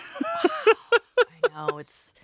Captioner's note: laughing